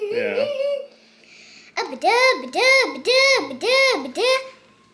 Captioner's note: baby mumbling